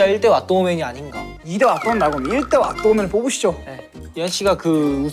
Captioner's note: pouting with a whimper